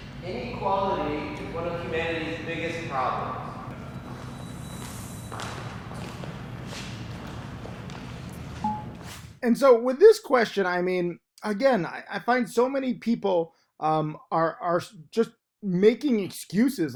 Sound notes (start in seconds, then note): 0.0 air whooshes; 8.5 air whooshing; 8.6 graphic dings